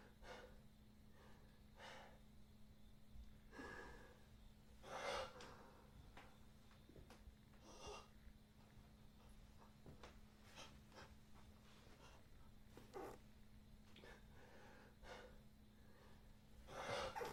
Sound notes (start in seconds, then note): 5.2 gasping